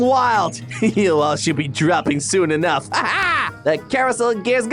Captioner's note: chuckling